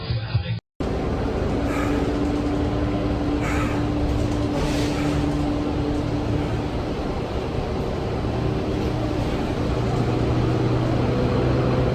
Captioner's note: breathes heavily